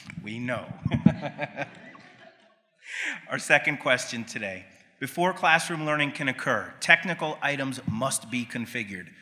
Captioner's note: laughs